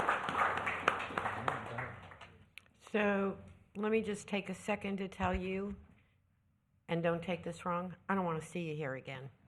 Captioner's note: cheers and applause